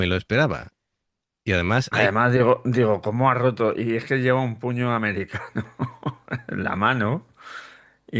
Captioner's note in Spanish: risas